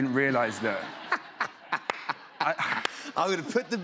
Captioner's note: laughter